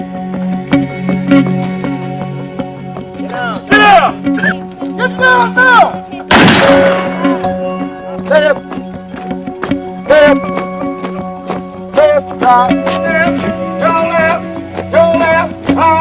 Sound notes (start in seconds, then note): 3.1 gun shot; 3.1 shouting